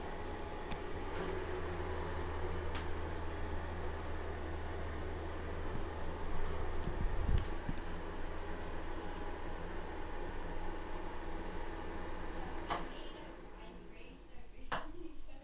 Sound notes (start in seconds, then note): 12.5 exhaust Fan Stopping; 12.7 click